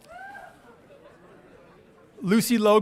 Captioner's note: audience cheering